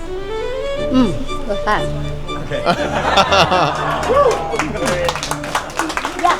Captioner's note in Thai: เสียงหัวเราะ